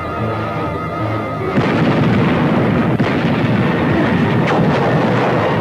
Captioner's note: suspenseful music; weapons firing; explosion booming